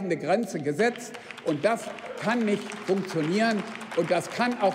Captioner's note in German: Beifall beim BÜNDNIS 90/DIE GRÜNEN sowie bei Abgeordneten der LINKEN